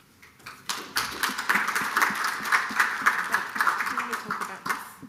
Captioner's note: audience clapping